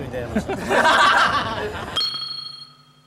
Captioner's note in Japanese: 爆笑